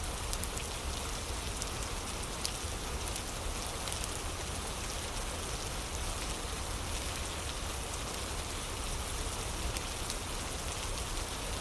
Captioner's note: fire crackling